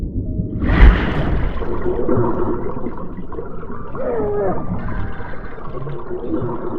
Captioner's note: thunder rumbling; water bubbling